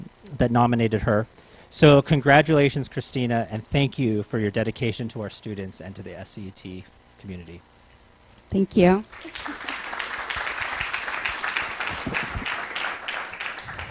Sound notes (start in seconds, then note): 9.0 applause